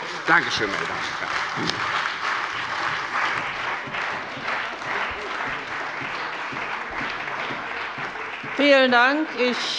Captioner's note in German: Beifall bei der CDU und dem BÜNDNIS 90/DIE GRÜNEN